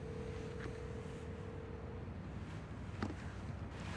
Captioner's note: line rings